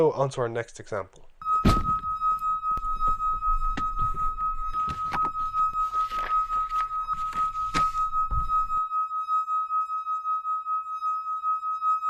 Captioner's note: high pitched tone plays